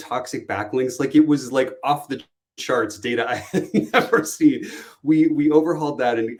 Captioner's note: laughs